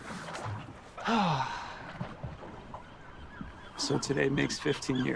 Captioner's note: Kent sighing